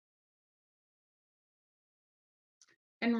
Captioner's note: silence